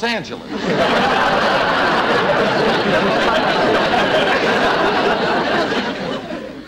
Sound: audience Laughing

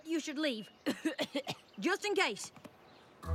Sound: coughs

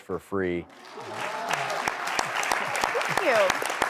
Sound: audience applauding

